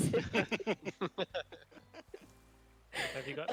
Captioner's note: laughter